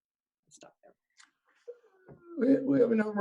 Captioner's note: speaks faintly